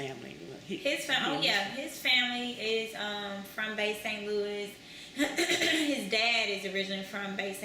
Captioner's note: clears throat